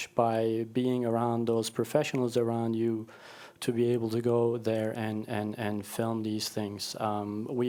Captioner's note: none